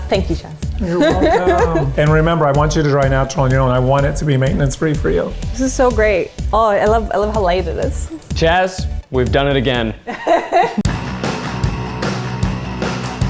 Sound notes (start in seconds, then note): 0.8 laughs; 10.1 laughing